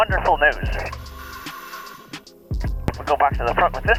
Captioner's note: apparatus inhales